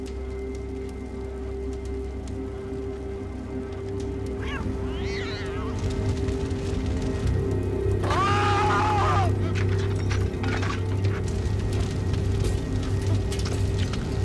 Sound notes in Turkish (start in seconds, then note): 0.2 Ateş çıtırtı sesleri; 5.8 Ateş çıtırtı sesleri; 8.0 Bağırma sesi; 11.6 Ateş çıtırtı sesleri